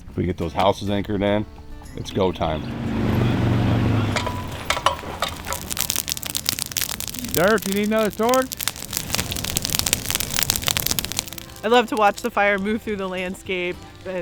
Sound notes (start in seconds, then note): 2.0 ATVs driving; 4.2 shovels clanking on walk; 5.7 low crackle of fire; 9.0 loud fire crackle